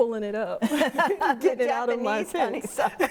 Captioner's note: laugh